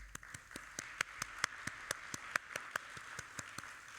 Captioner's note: audience applauding